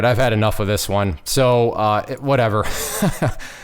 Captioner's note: chuckles